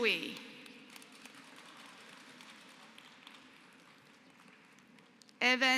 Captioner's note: applause